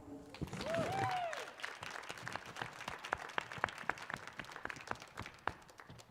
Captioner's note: audience cheering and applauding